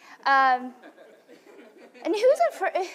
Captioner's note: laughter